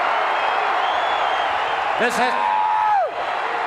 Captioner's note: audience cheering